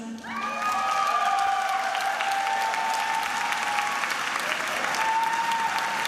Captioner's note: attendees applauding and cheering